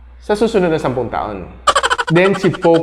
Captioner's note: laughs